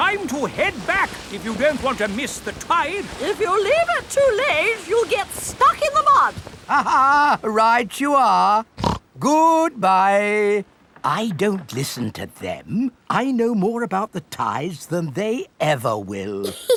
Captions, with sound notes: Time to head back if you don't want to miss the tide. If you leave it too late, you'll get stuck in the mud. (LAUGHS) Right you are! (SNORTS) Goodbye! I don't listen to them. I know more about the tides than they ever will!